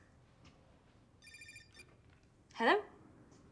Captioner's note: alarm